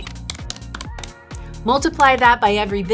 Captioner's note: calculator clicking